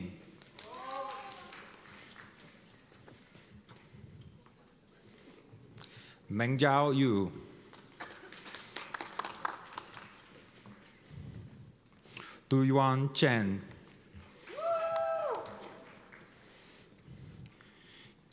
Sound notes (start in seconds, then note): 0.5 cheers and applause; 7.7 applause; 14.4 cheers